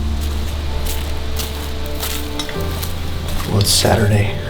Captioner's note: sound of walking